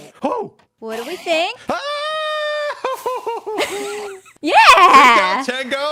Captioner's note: enderman noises; screams off into the distance